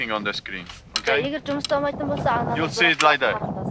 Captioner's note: woman speaks in Mongolian